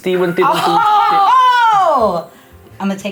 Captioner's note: gasping